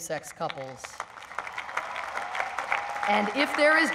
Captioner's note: applause